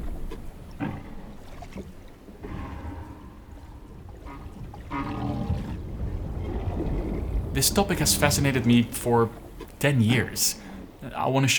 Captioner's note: whale sounds